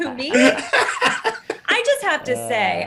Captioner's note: Eric laughs